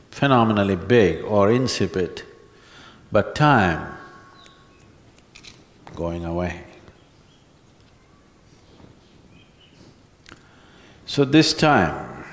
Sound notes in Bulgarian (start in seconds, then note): 5.1 щрака с пръсти